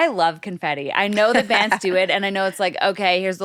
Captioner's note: laughs